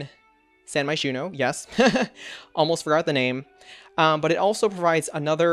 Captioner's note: laughs